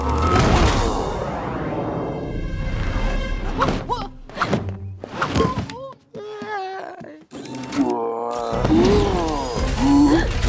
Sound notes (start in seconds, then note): 4.8 gasps; 6.2 groans